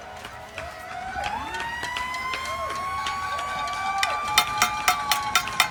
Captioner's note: distant cheering; pot clanging